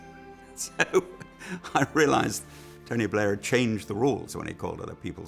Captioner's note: chuckles